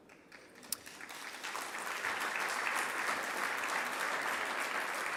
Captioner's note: audience applauding